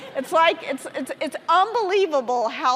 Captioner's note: audience laughing